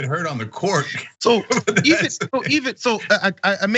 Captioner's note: laugh